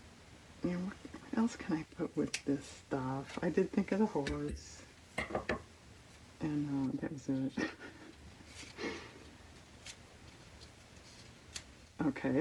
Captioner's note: laughs